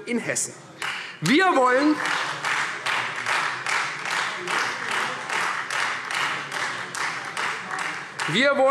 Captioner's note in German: Beifall Freie Demokraten